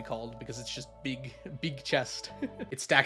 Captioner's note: laughs